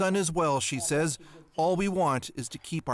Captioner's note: speaking Foreign Language